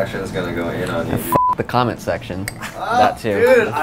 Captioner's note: beep